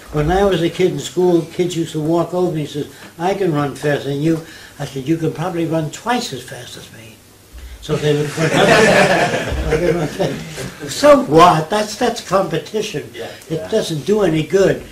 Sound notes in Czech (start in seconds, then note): 8.2 smích